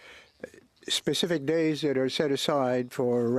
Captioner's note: speaking French